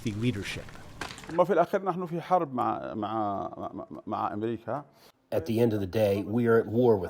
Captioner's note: through translator